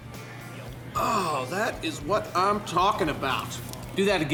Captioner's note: grunt